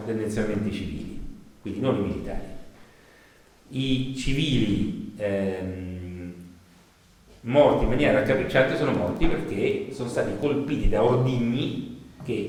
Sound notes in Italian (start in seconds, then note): none